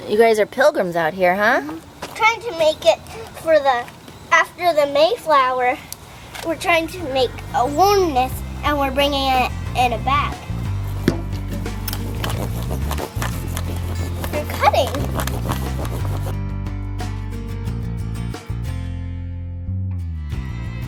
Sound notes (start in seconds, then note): 11.9 sawing; 16.4 folky guitar and violin music